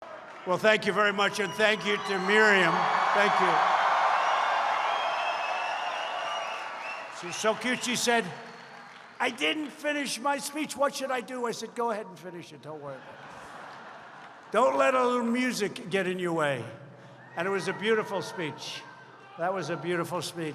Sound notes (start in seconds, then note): 3.6 applause; 13.0 laughter